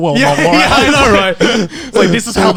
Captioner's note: laughing